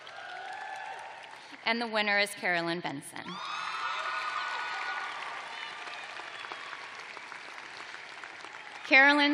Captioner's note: cheers and applause